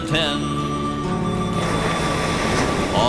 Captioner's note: waves crashing